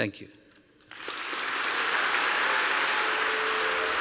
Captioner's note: applause